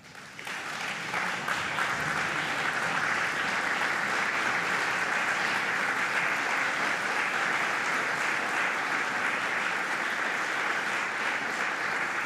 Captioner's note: applause